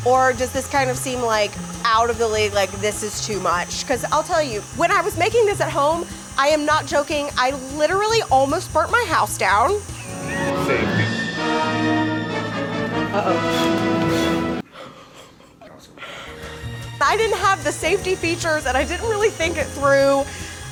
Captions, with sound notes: or does this kind of seem like out of the way, like this is too much? 'Cause I'll tell you, when I was making this at home, I am not joking, I literally almost burnt my house down. - Save me. (suspenseful music) - Uh-oh. (laughing) I didn't have the safety features and I didn't really think it through.